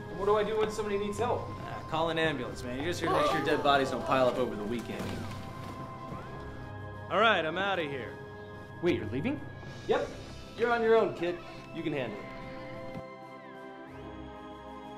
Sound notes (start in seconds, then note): none